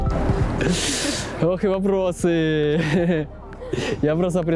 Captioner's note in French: rires